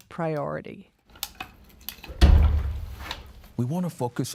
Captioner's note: tools banging